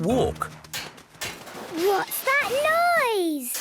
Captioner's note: distant banging, crashes